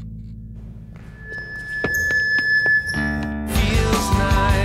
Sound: speaker squealing

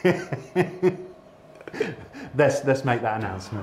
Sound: laughing

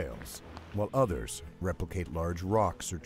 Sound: voiceover

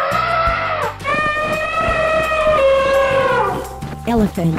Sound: elephant sound

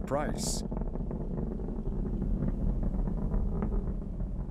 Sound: engine rumbling

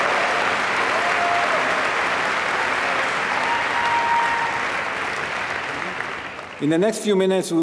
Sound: applause

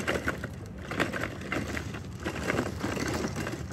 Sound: feet clatter

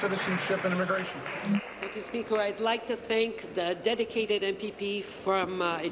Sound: applause

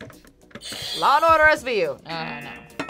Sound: buzzer; buzzer rings

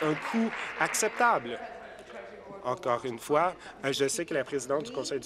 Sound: applause

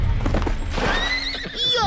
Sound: horse neighs

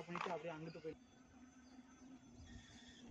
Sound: motor sound

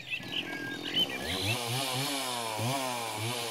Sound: chainsaw revving up

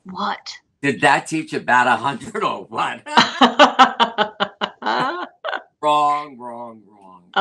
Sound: laughter

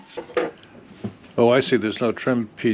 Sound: none

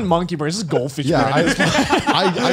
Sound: laughs

